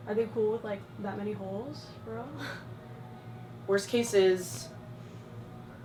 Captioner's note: none